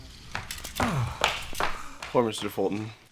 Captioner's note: relieved exhale